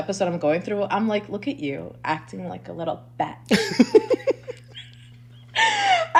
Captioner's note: laughs